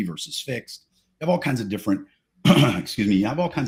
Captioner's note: clears throat